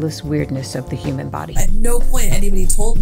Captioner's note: soundbite of archived recording